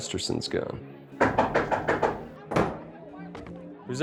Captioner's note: frantic knocking on door